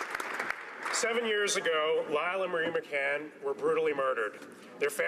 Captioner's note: some Applause